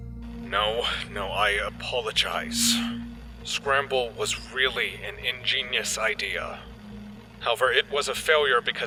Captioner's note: sighs